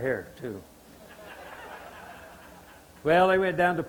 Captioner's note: audience laughter